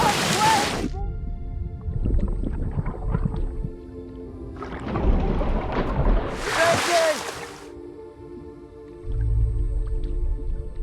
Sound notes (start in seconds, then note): 4.7 water gurgling; 7.2 somber music